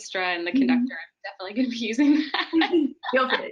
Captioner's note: laughs